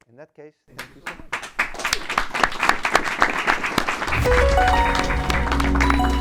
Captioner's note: audience applauding